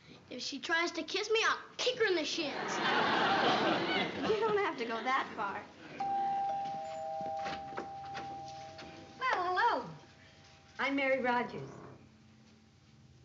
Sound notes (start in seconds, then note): 6.0 doorbell rings